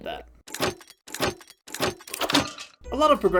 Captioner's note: mechanical lock noises